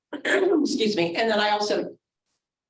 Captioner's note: throat clearing